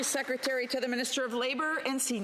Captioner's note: applause